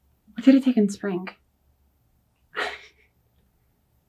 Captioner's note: laughs